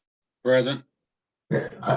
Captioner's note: audio cut out